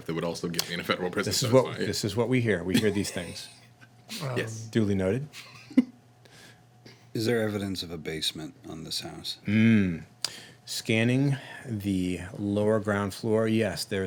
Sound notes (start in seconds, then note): 6.0 laughing